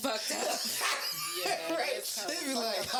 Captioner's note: laughing